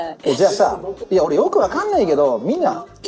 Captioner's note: snorts